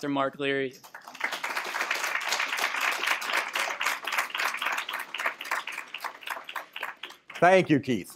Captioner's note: applause